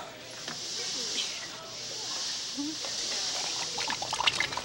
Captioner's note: volcano hissing; lava bubbling